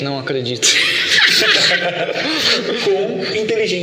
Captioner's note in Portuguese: risos